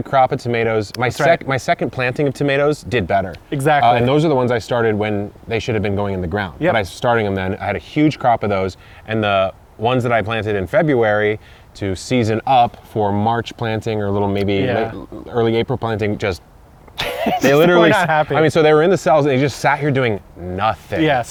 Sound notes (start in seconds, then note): 16.6 tongue noise; 17.0 laughs